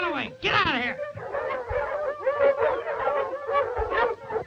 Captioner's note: dogs barking